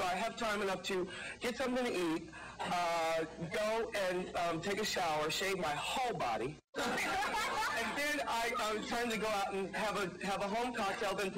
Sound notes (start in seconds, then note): 6.8 audience laughing